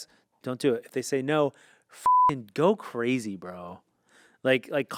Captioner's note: beep